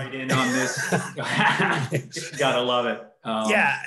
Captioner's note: laughs